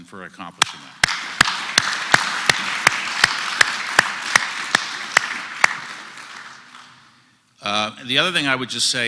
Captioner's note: applause